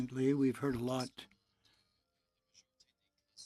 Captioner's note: speaking French